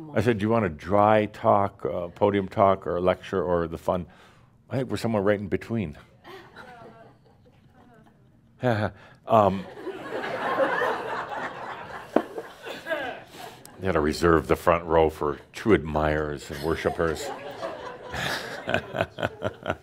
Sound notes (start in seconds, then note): 9.6 laughter; 18.0 Adamus chuckles